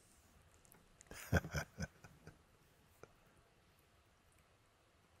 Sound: Mooji laughs

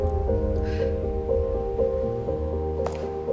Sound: soft piano; exhales

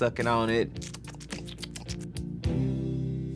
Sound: suckling

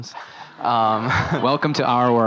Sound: laughing

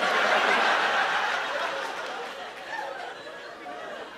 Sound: laughter

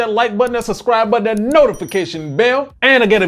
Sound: bell ringing

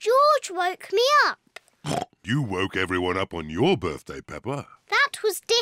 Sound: oinks

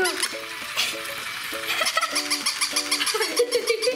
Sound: toy dog yipping; laughing

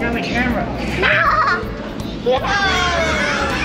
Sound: laughs

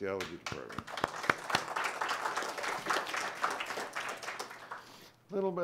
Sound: applause

